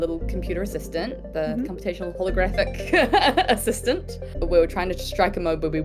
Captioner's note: laughs